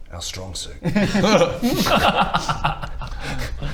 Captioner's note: overconfident giggles